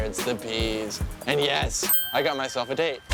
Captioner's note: bell chimes